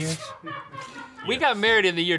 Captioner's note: people laughing